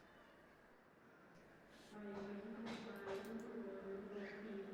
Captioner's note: airport backgroun sounds